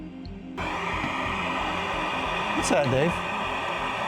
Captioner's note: static buzzing